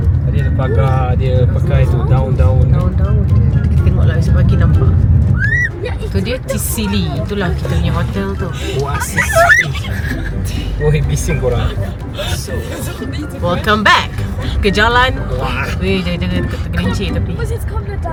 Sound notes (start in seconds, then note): 9.0 laugh